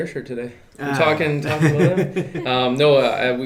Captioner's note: laughing